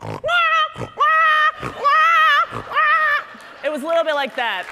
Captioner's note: imitating northern gannet